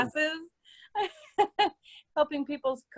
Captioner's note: laughs